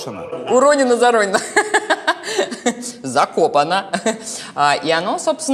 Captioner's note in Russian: смеётся